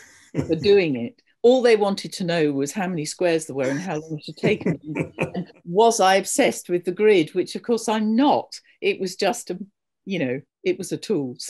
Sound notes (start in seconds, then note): 4.4 laughs